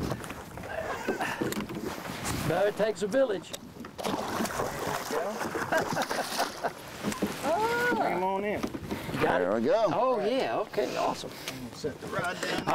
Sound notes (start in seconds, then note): 6.7 water splashing; 9.5 laughing